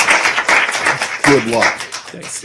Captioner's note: applause